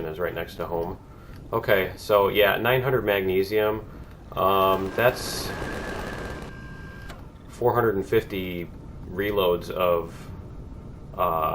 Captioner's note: turret firing